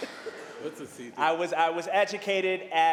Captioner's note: laughter